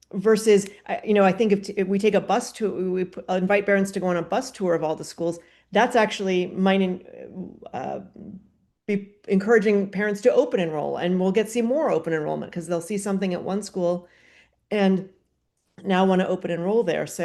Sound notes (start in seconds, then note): none